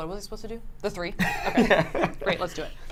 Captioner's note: laughs